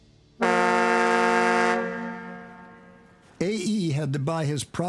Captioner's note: horn honks